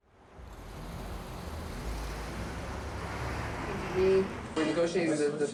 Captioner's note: cars rumbling